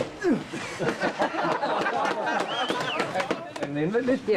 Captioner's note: crew laughing